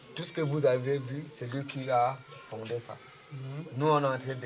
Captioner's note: birds chirping